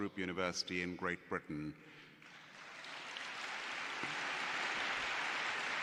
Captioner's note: applause